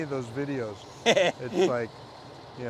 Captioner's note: laughing